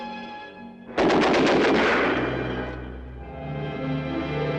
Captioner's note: gun fires